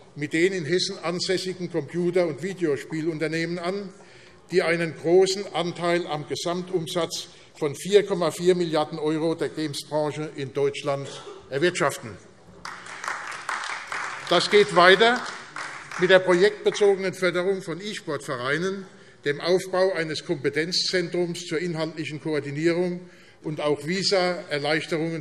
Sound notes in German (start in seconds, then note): 12.6 Beifall AfD